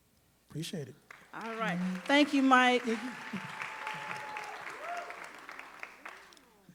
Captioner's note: audience applauding